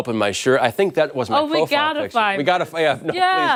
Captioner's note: laughter